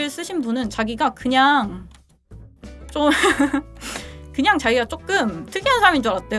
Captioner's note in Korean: 웃음